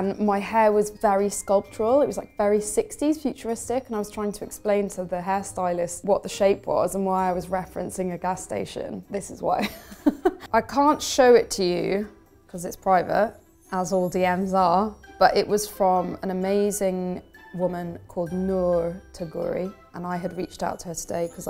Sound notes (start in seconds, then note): 9.6 laughing